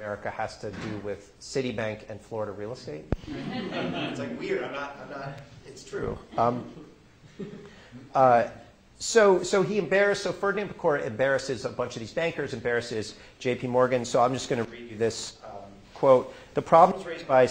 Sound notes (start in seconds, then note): 8.8 laughter